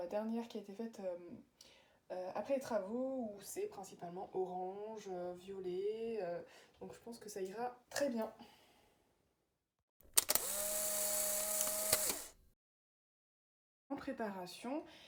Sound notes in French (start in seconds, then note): 10.1 Bruit d'appareil photo